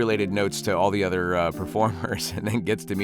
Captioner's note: chuckling